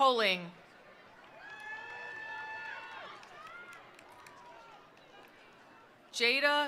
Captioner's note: attendees cheering; attendees applauding